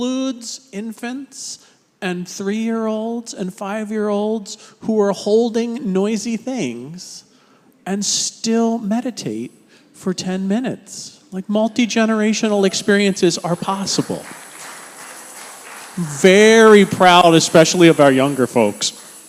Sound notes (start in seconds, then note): 15.2 congregation applauds